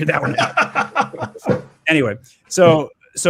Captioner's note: laughs; bursts into laughter